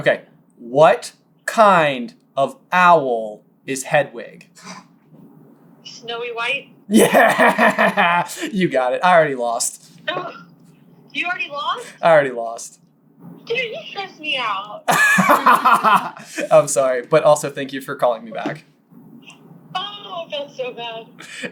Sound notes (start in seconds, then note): 14.8 laughter